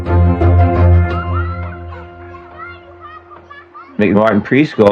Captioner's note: chchilildrenen s shoututinin